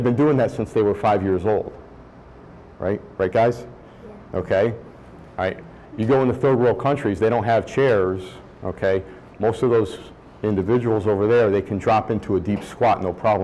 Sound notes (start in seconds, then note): 4.2 voiceover